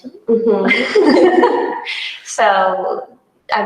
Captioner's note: both laugh